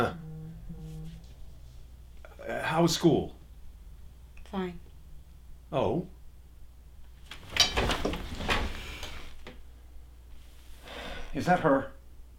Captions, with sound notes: (cell phone vibrates) How was school? Fine. Oh? (table creaks) Is that her?